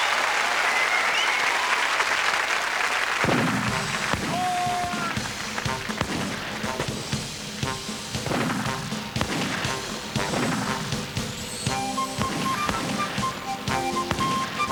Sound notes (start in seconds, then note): 3.5 gunfire